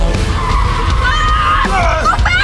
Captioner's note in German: hupen ertönen; Reifen quietschen; schreit